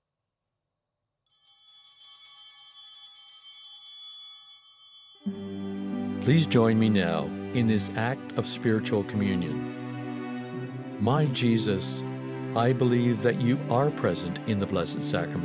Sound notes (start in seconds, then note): 1.3 chimes ringing